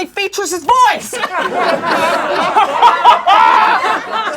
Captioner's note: laughing